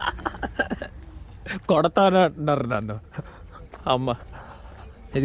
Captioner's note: laughs